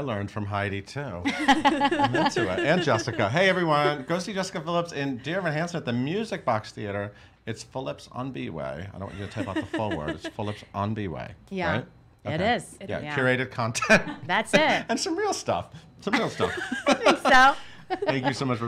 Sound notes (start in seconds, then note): 1.2 laugh; 13.8 laughs; 16.2 laughs